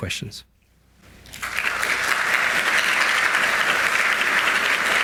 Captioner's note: audience applauds